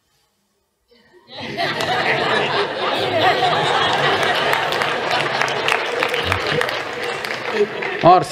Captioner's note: smích